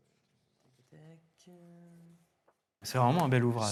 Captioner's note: murmuring